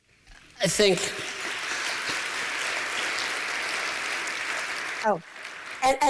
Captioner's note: applause